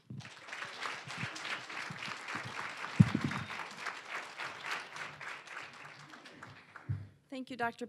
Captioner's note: applause